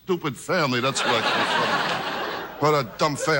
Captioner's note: audience laughs